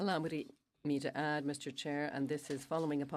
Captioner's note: speaking French